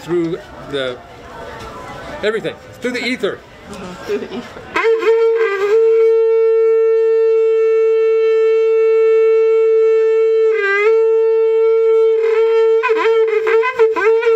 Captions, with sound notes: the everything, through the ether [horn sounds long and loudly]